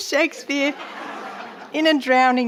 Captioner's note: audience laughing